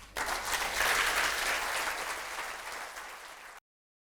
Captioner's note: audience applauding